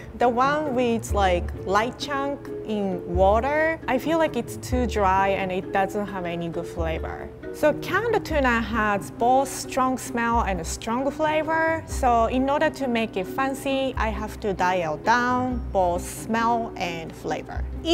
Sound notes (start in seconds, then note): none